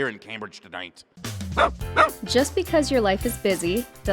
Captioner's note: dog barking